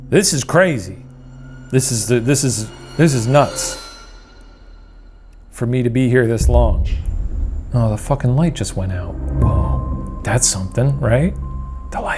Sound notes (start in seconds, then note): 1.8 stammering; 6.4 mysterious tapping